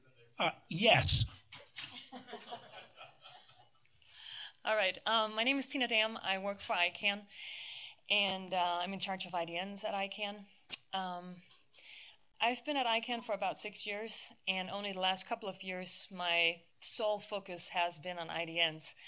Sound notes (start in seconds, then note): 1.6 laughter